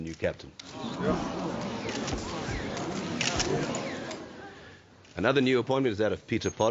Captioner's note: murmuring and clicking